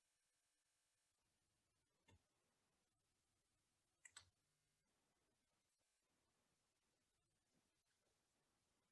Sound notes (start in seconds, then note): 4.0 mouse clicks